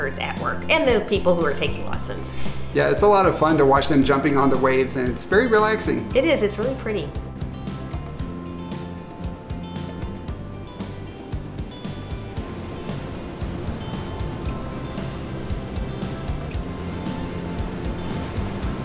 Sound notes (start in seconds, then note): 7.8 gentle music; 7.8 waves clashing